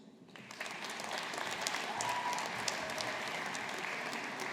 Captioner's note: audience applauding